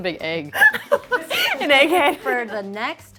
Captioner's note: laughs